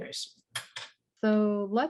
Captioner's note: keyboard clanking